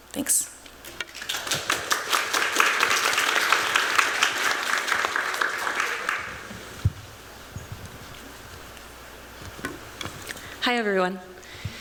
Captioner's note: applause